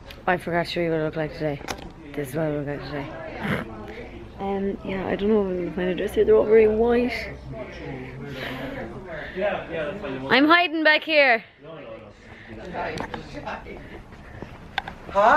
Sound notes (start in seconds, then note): 7.5 sighs; 10.7 distant chatter